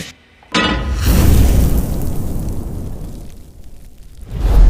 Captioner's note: clangs; sizzles